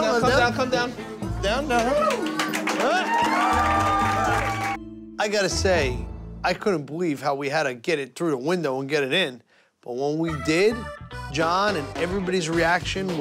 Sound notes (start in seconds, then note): 1.6 cheers and applause